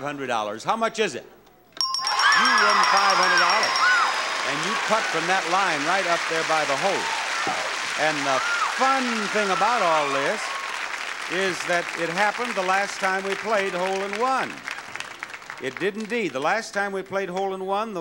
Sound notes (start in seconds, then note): 1.7 bells dinging